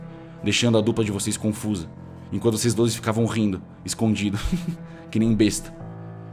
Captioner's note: laughs